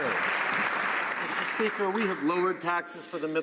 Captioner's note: some Applause